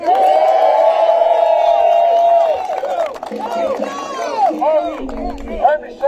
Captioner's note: applause